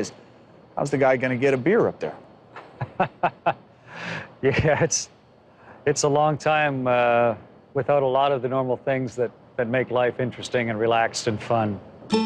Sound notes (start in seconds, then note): 2.6 laughs